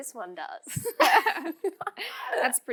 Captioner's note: laughs